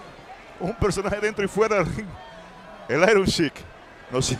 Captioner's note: laugh